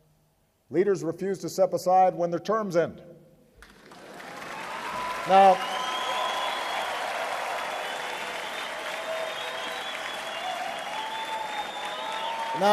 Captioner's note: applause